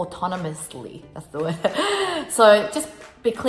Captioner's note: chuckles